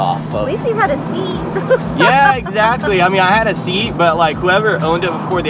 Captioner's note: laughs